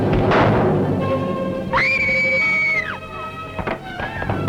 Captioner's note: loud screaming